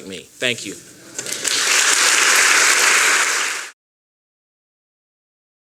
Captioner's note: applause